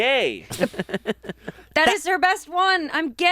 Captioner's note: laughs